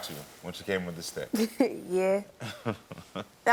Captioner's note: Karamo chuckling; chuckling